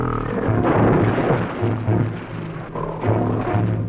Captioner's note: gorilla grunting; tense music; gunshots firing; gorilla grunting; tense music